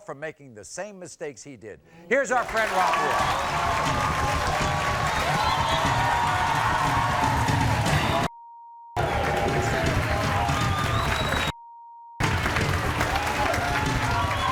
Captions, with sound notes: from making the same mistakes he did. Heres our friend, Rafael. (Audience cheers) (beeps)